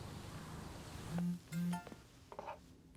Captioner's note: phone chimes